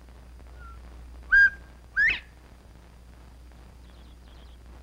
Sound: quail singing

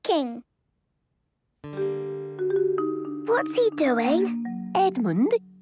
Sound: whispering

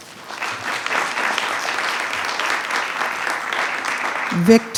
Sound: attendees clapping

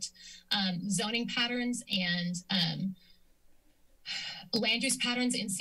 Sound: exhales

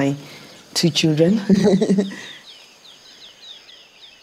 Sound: laughs

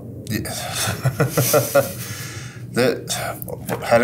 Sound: both laugh

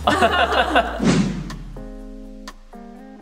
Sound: adults laugh; whoosh; relaxing music

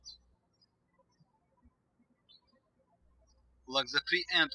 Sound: birds chirping

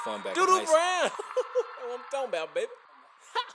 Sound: laughs

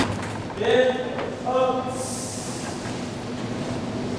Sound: band hisses

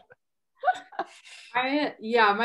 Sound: laughs

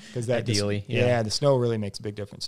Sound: laughs

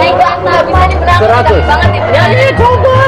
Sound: speaking indonesian

